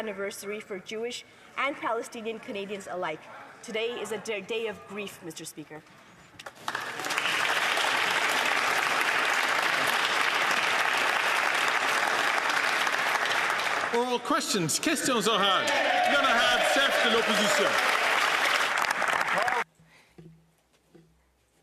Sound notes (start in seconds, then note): 11.7 some Applause